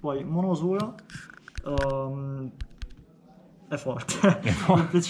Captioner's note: laughs